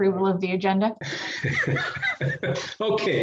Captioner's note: chuckles